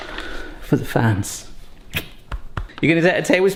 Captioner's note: kisses